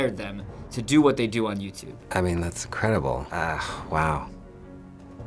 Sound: none

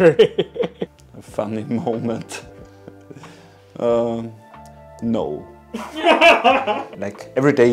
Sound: laughing

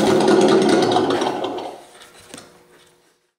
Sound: engine stopping

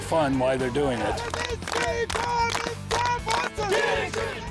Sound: team cheers

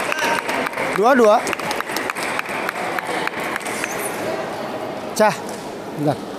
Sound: applause

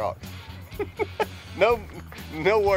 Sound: laughs

